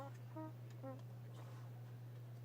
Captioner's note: none